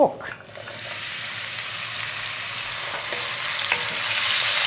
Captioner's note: sizzling